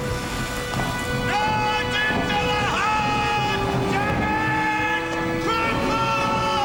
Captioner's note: voice echoes